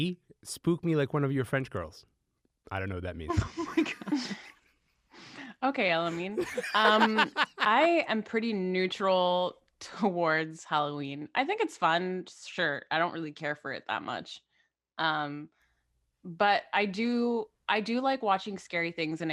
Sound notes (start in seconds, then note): 3.2 group giggles; 6.0 laughs